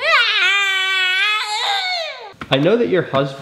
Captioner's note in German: schreit